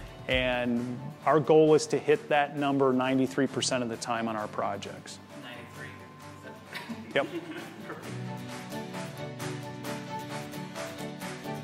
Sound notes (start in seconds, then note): 6.6 woman giggling; 8.4 upbeat music